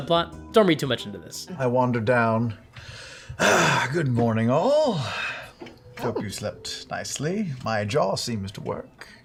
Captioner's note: sighs